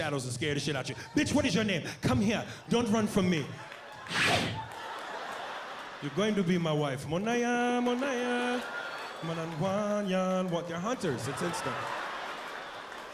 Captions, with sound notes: AND SCARE THE SHIT OUT OF YOU. "BITCH WHAT IS YOUR NAME? COME HERE. DON'T RUN FROM ME. ( blows air ) YOU'RE GOING TO BE MY WIFE." ( imitates African singing ) THEY'RE HUNTERS. IT'S INSTINCT.